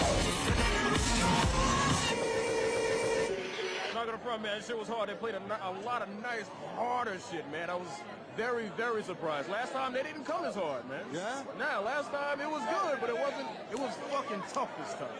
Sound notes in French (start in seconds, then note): 0.0 Cris de la foule; 6.1 Cris de la foule